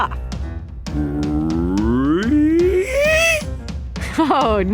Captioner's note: does a vocal siren